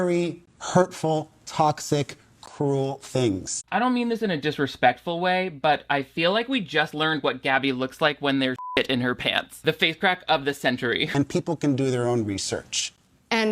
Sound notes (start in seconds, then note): 8.6 beep